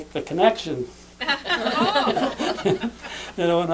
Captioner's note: laughter